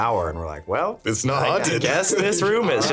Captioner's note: laughing